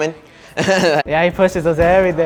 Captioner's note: laughing